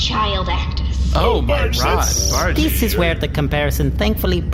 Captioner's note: chipper